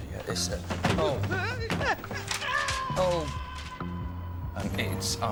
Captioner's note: distant screams, thud